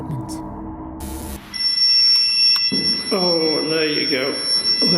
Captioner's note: devices beeping